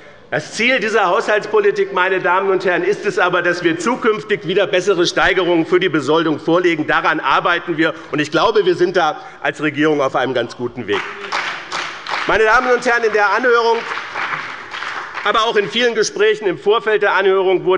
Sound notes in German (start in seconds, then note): 10.9 Beifall bei dem BÜNDNIS 90/DIE GRÜNEN und der CDU